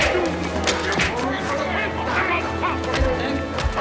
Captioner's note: speaking german